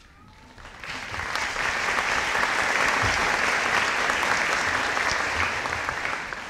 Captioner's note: audience applauding